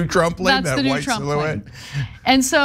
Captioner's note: laugh